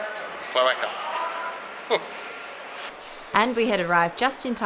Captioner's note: laughs